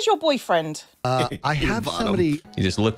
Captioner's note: laughing